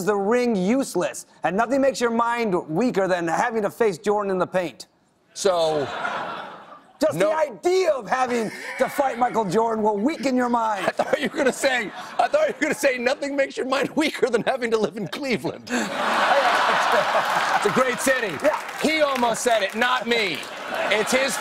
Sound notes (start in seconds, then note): 16.4 applause; 17.4 laughter